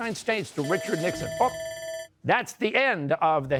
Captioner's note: bell rings